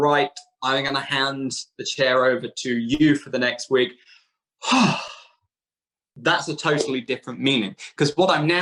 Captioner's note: sighs